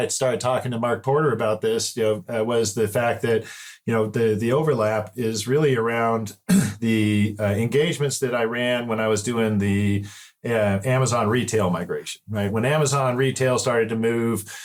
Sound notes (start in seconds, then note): 6.4 clear throat